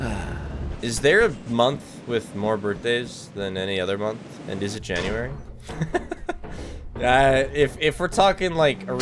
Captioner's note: sighs heavily